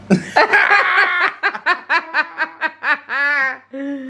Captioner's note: both laughing